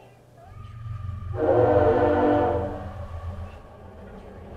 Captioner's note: loud train sound